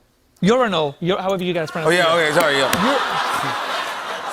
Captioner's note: laughter